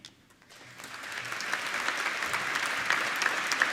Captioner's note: applauding